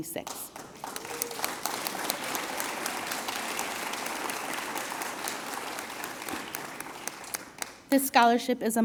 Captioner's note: applause